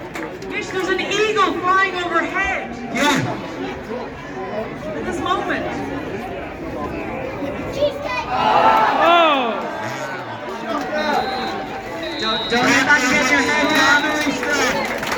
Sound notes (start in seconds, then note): 10.9 final whistle blows; 13.3 applause